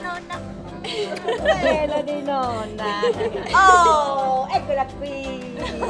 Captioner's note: speaking Italian